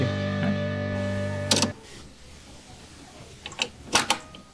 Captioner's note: cassette deck door closing; clicking